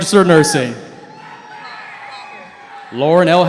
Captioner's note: cheering